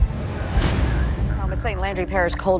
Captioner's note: air whooshing; somber orchestra music